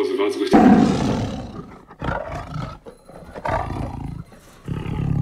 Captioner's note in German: Tigergebrüll